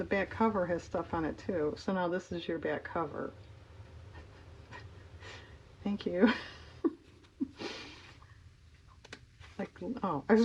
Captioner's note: laughs